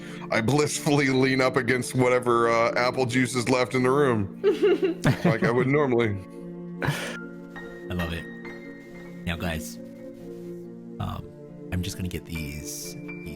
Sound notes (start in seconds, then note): 4.5 all giggling; 6.8 inhale